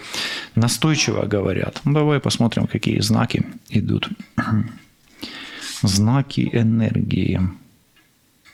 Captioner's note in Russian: откашливается